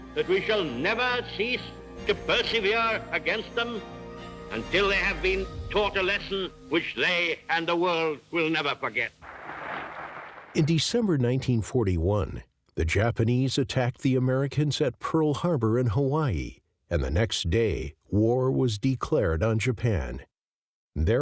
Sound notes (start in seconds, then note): 9.2 audience claps